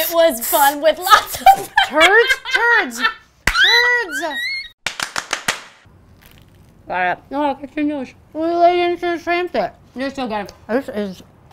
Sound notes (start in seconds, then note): 4.4 laughs